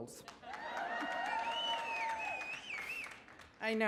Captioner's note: audience cheers